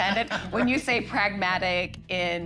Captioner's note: laughing